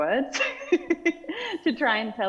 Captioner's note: laughing